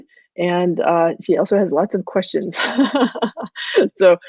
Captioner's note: laughing